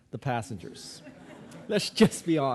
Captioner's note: audience laughing